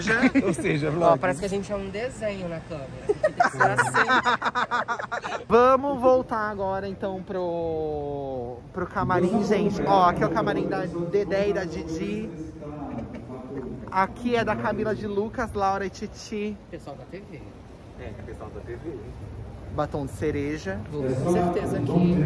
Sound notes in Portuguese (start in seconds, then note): 3.0 risos